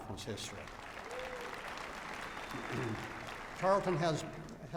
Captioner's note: applause